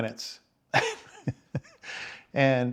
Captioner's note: laughing